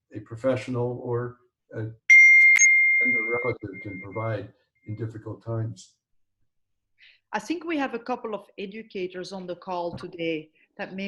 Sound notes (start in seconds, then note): 2.1 beep